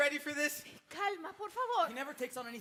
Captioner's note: speaks in Spanish